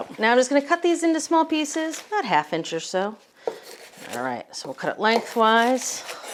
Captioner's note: none